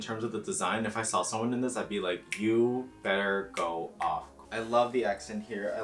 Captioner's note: snap